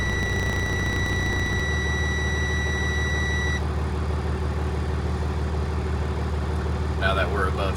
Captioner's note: engine running